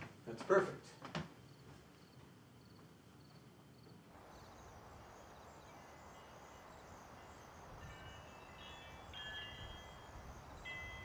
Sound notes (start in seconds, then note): 3.5 insects chirping; 3.5 wind whooshing; 7.8 chimes clanging